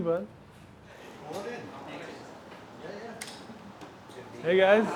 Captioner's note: group of people chatting